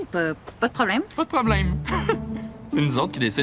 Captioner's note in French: rire moqueur